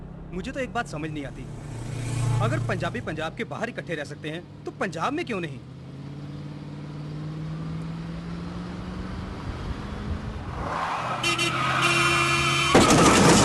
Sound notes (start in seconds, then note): 11.0 horn Honking